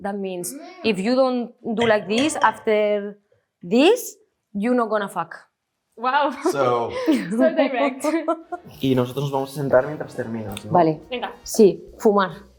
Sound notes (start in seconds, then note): 6.4 chuckles; 8.9 producer 1 speaks in Spanish; 10.9 producer 2 speaks in Spanish; 10.9 speaks in Spanish